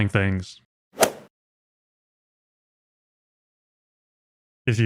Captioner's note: golf ball hit sound effect